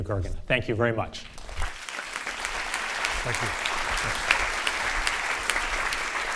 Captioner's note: audience applauding